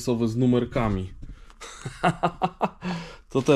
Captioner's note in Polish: śmiech